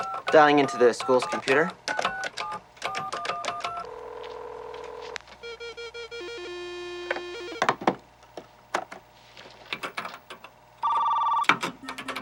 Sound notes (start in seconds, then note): 5.4 phone ringing